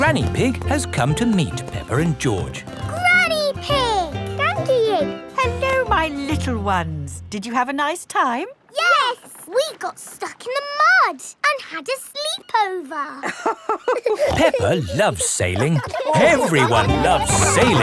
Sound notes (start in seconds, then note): 13.2 both laughing